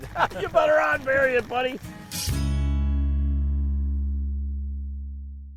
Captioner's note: laughs